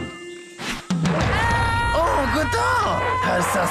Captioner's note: screams